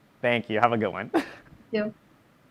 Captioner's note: chuckling